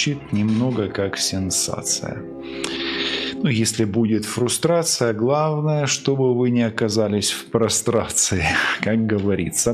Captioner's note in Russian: фыркает